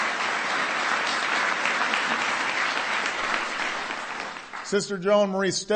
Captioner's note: applause